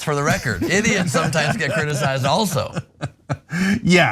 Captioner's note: laugh